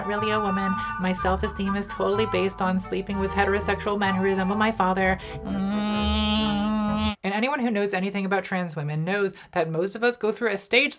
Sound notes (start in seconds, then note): 5.5 buzzing